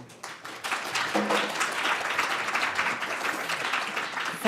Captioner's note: audience applauds